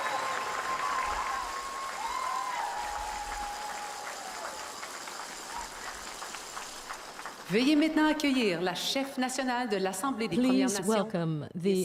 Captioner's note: cheers and Applause